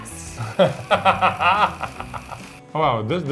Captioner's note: laughing